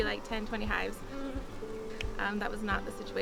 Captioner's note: bees buzzing